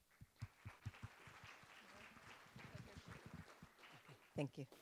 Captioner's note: applause